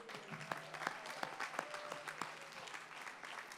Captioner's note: applause